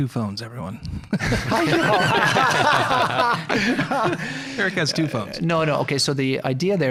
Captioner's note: laughing together